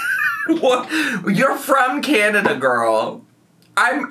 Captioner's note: laughs